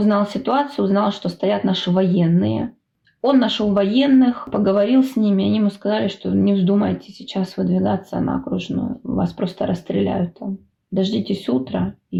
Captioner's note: Ukrainian